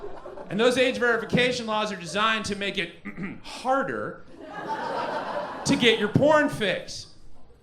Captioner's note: ahem